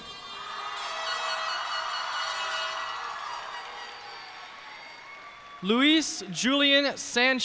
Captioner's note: cheers and applause